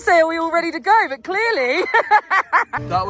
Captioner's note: laughs